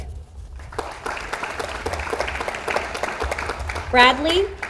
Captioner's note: audience applauds